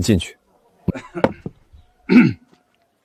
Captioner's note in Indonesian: Uhuk uhuk